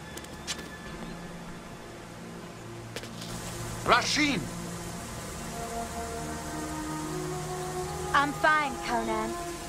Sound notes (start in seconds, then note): 0.6 knife being sheathed